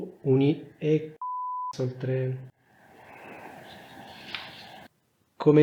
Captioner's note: beep